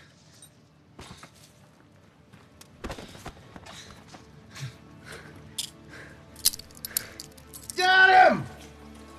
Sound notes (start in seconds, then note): 2.6 shaky breathing